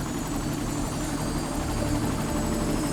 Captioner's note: helicopter blades whirring